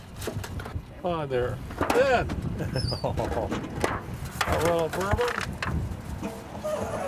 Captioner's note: door creaking